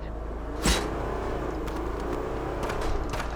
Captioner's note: engine revs